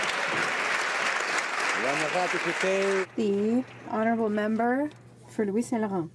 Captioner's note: some Applause